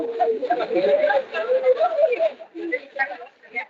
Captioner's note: attendees laughing